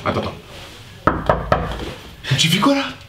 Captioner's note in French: toque à la porte